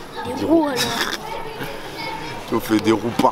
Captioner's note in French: rires